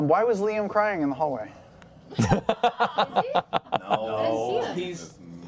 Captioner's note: laughs